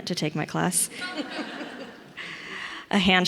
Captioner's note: audience laughs